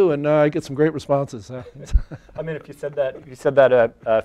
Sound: chuckles

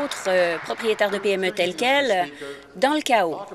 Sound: applause

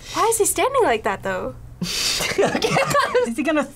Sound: laughs

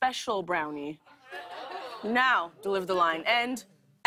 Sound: audience oohs

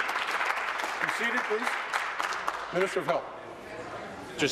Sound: applause

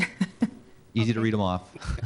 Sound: laughing

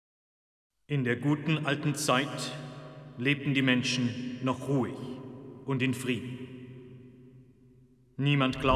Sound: speaking German

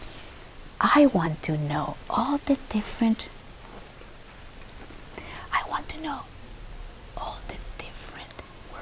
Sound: whispers

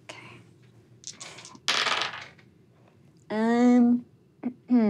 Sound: dice rolling

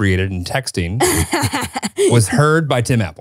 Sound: laughing

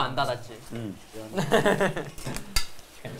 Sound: laughing

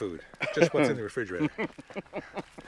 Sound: laughs

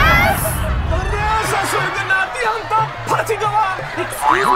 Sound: in hindi

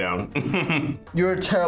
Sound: laughs

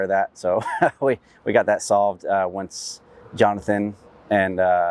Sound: laughs

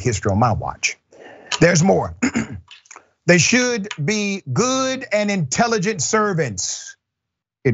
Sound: cough

